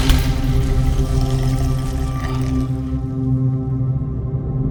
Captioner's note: ominous music; creature growling